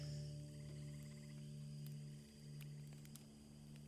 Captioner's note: fire crackling